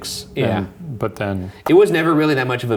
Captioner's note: smacks lips